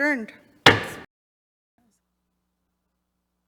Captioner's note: gavel taps